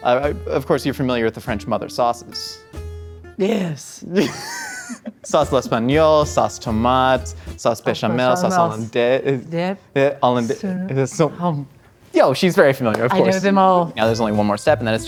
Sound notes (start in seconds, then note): 4.2 laughing